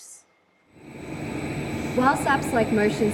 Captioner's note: industrial noise in background